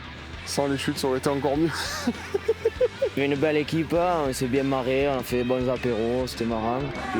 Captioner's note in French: rires